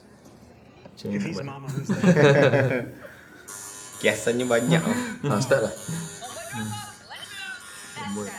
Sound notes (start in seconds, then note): 1.7 laugh